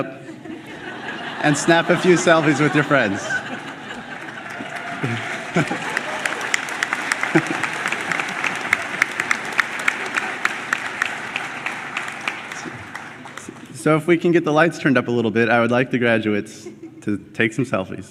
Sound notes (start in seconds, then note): 0.1 laughter; 4.2 cheering; 5.7 clapping